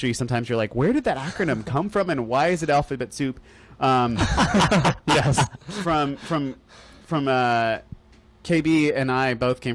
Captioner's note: laughter